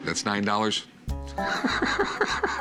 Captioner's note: laughs